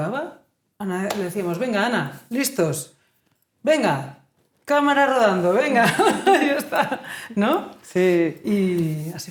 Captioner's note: laughing